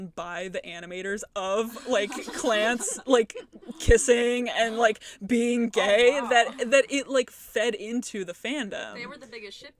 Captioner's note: giggles